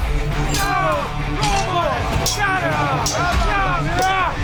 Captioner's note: all cheering